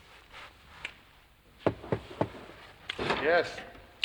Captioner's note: knock at door